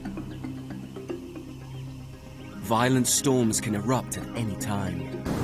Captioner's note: thunder rumbling